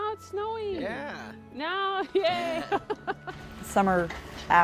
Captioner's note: chuckles